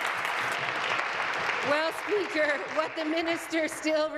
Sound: applause

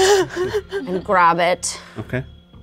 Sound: player laughs

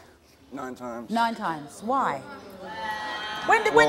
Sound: audience jeering

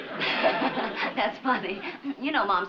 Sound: chuckles

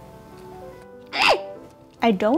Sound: squealing

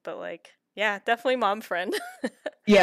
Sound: laughter

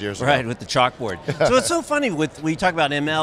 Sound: chuckles

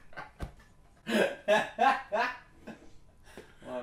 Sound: then hysterical laughing

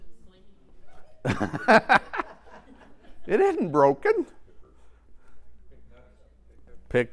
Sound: laugh

